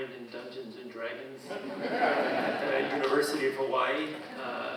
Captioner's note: audience laughing